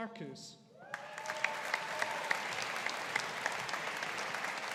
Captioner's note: audience applauding